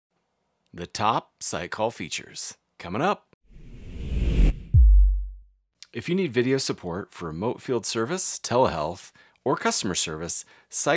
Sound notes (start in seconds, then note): 3.6 electromagnetic wave whooshes